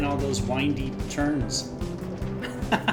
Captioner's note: laughs